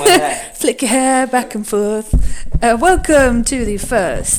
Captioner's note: laughs